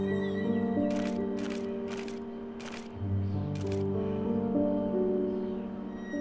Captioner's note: camera shutter snapping